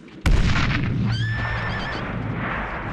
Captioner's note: horse neighs